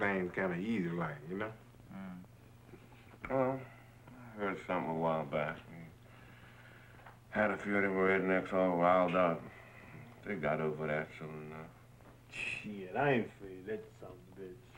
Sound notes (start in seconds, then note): 7.9 mutters